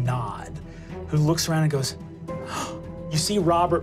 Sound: gasps

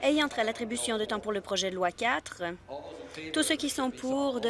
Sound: none

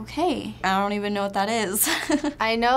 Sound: chuckles

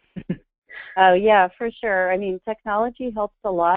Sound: voiceover

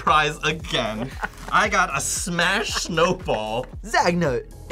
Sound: laughs

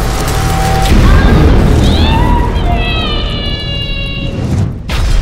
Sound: dramatic music; witch screaming

